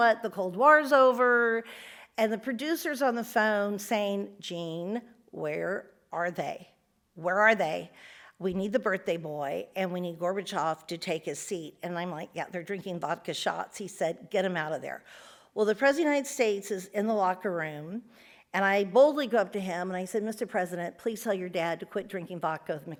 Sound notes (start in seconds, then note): none